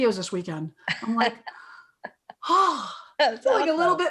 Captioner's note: sighs